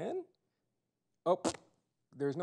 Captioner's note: splat sound